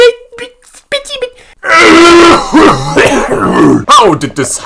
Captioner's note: aggressive coughing